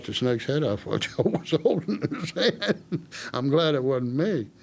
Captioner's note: laughing